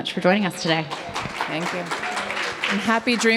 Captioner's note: audience clapping